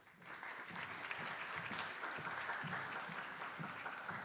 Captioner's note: attendees applauding